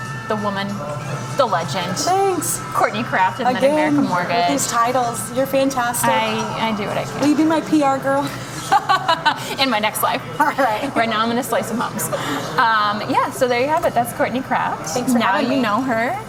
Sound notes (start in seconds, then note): 8.4 laughing